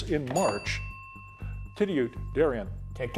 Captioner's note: bell ringing